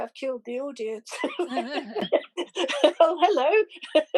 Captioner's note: laughter